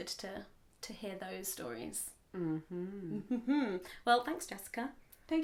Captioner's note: evil laugh